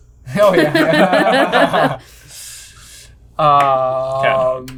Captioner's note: all laughing